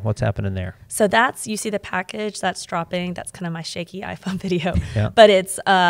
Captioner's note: chuckles